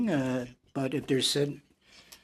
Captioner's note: speaking French